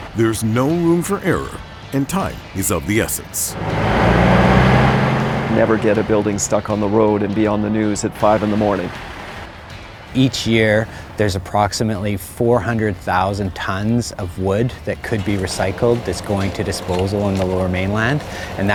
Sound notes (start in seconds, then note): 3.9 truck humming; 3.9 upbeat rock music continues; 9.3 truck humming; 9.3 upbeat rock music continues